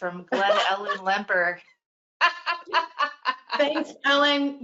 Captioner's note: laughing